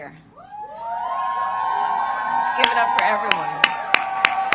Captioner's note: applause